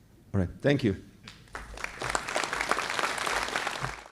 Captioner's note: applause